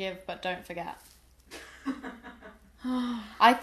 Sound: laughter

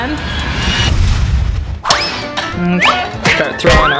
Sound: explosion booming

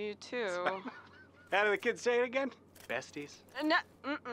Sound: laughs

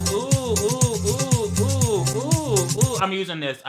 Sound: exclaiming

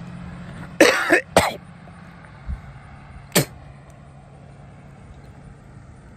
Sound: Ava coughs then spits again

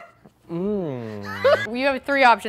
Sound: laughs

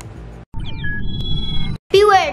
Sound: signal beeping

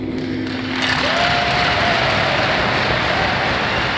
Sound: applause

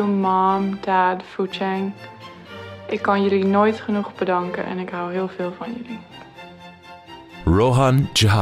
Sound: non-english speech

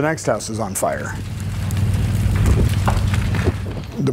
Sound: fire crackling

